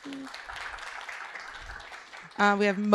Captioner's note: applause